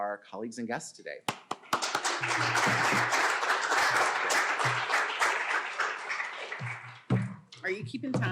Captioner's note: applause